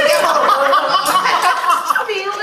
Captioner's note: EVERYONE laughs